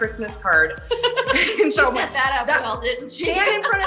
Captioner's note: laughs